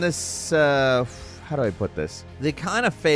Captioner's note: exhales